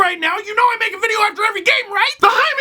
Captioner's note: shouting